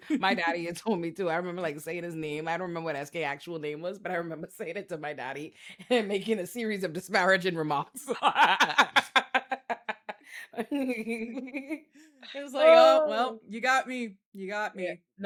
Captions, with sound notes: My daddy had told me to, I remember like saying his name. I don't remember what SK actual name was, but I remember saying it to my daddy making a series of disparaging remarks. (laughing) He was like, "Oh, well, you got me, you got me."